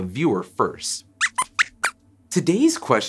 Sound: squeaks squeaks

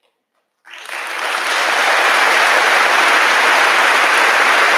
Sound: audience applauding

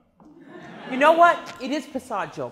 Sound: class laughs

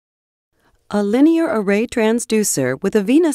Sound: voiceover

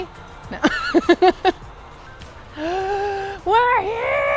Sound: laughing

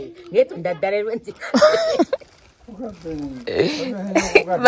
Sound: laughs

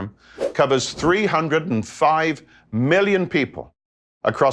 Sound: graphic whooshes

